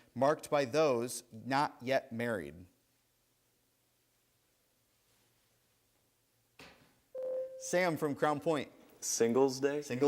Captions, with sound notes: marked by those not yet married. (buzzer sounds) Sam from Crown Point. >> Singles Day?